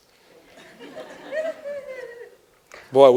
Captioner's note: laughter